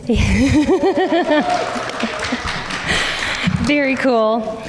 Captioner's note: laughing